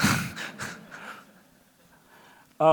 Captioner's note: laughs